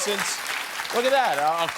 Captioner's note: cheers and applause